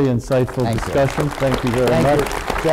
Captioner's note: group applause